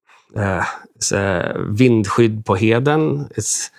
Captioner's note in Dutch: spreekt in vreemde taal